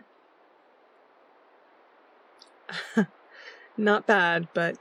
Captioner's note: laughs